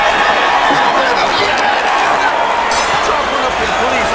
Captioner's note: bell rings